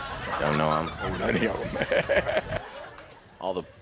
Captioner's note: audience laughs; laughs